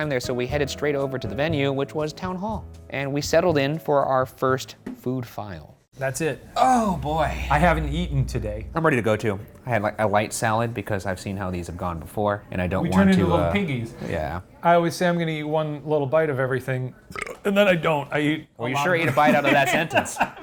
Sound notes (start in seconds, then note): 17.1 burps